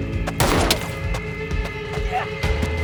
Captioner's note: pistol booming